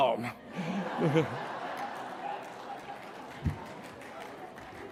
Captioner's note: laughter